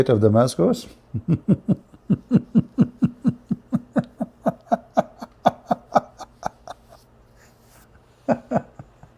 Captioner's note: Ketawa